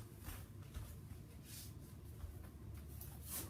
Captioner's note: footsteps